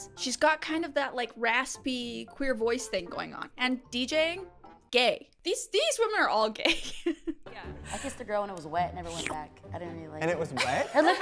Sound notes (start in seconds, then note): 6.7 chuckles